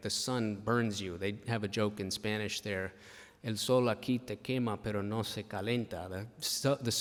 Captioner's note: speaking spanish